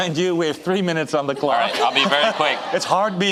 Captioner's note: audience laughing